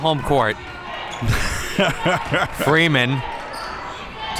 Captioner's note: laughing